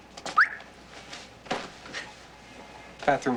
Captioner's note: whistles